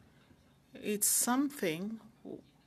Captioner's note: speaking French